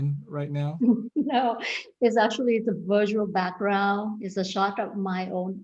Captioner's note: laughs